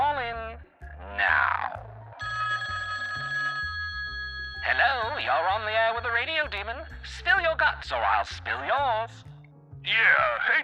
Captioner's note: phone ringing